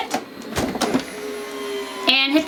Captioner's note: autopress whirs